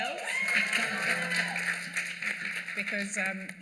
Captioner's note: cheers and applause